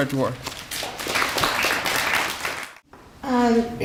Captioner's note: applause